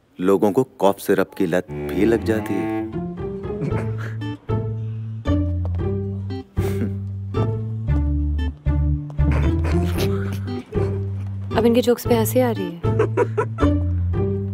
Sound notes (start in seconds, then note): 3.5 Giggles; 13.0 Laughs